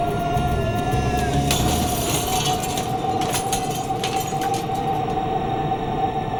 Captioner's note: glass shattering; scary music